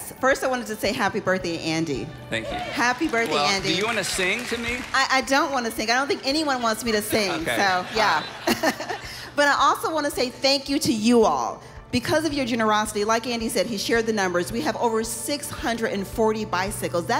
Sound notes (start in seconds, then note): 8.5 audience laughing; 8.5 woman laughing